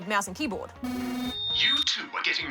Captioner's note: speaker crackles